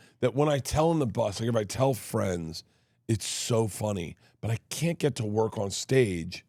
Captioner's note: none